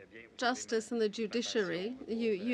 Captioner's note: speaking french